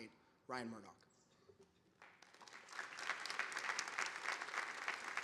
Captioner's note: audience applauding